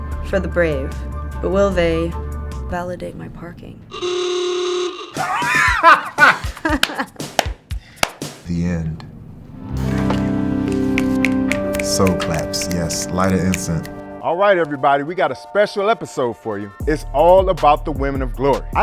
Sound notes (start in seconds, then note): 0.0 suspense music; 4.0 car horn honking; 5.1 Spice laughing; 5.1 laughing; 5.1 upbeat music; 9.5 meditative music; 10.8 snapping; 14.6 upbeat R&B music